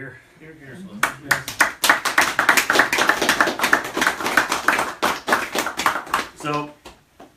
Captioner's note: applause